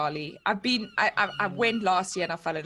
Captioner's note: birds chirping